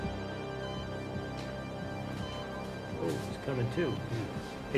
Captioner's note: beeping